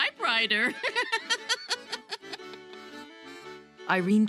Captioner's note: laughs